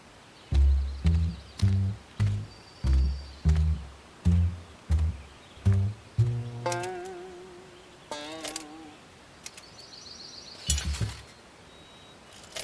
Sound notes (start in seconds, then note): 10.7 armor creaking